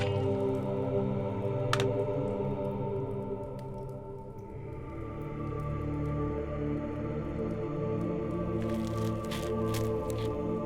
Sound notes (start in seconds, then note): 8.6 knife slicing